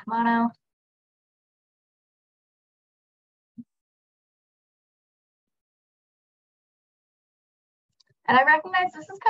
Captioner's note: silence